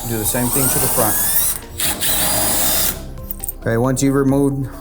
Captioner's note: drill whirls